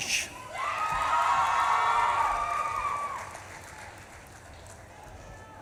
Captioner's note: audience claps and cheers